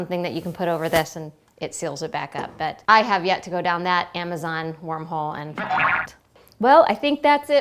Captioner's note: boing